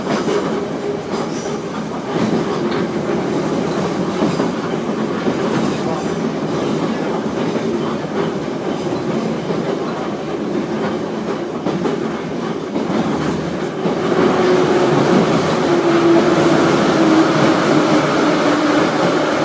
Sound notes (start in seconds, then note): 13.8 braking - arrival at the station